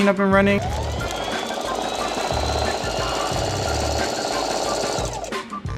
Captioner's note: sewing machine whirring